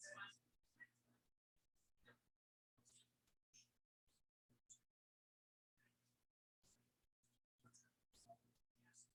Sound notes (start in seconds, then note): 1.4 people chattering indistinctly